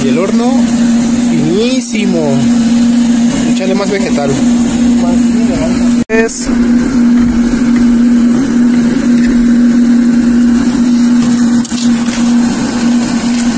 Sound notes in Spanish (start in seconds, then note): 6.6 aplastando el cobre